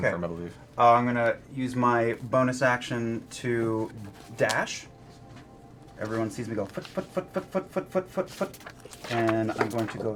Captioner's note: footsteps